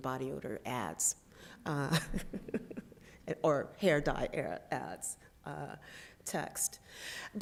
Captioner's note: laughs